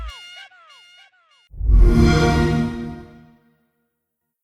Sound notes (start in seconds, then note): 1.6 xbox sound